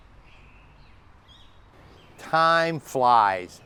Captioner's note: birds chirping